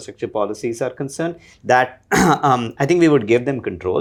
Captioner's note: clears throat